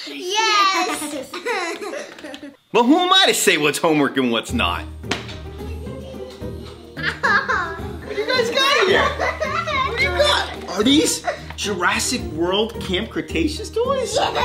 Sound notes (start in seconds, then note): 7.5 laughs